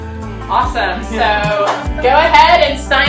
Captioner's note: chuckling